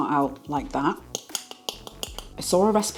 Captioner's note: tap tap tap